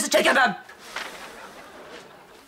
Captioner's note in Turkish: Gülme efekti